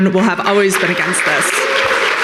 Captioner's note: audience cheering and applauding